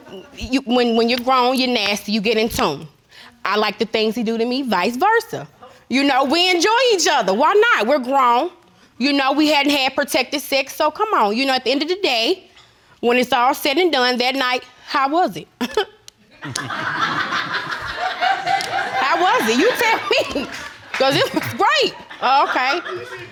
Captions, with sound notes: When you've grown, you're nasty, you get in to him. I like the things he do to me, vice versa. You know, we enjoy each other. Why not? We're grown. You know, we hadn't have protected sex. So come on, you know at the end of the day, when it's all said and done, that night, how was it? (CHUCKLES) (AUDIENCE LAUGHING) How was it? You tell me. 'Cause it's great. Okay.